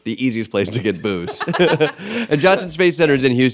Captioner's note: laughter